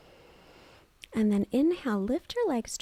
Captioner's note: inhales